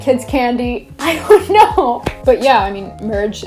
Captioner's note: laughs